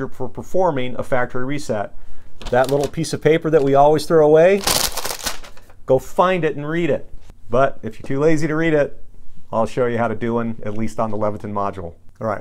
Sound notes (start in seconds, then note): 4.5 crumpling paper